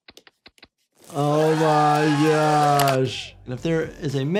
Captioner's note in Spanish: El público aplaude